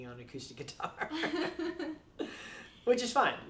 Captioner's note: laughing